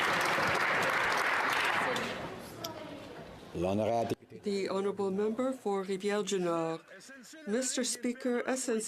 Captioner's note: some Applause